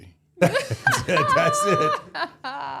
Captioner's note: everybody laughing